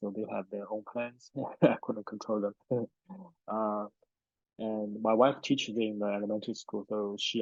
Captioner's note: laughs